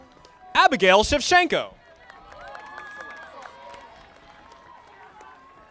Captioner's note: audience applauding